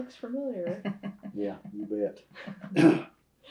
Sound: laughter

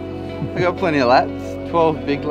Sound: cameraman laughs

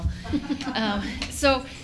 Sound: laughing

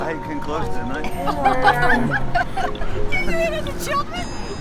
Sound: laughing

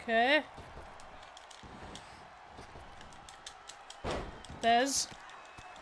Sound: applause

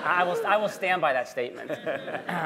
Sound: laughter

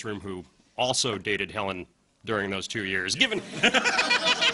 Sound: laughter

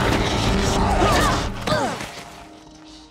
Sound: grunting

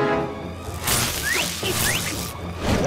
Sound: grunting; sizzling

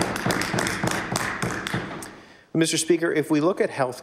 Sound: applause

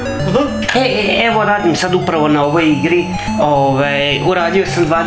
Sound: stutters

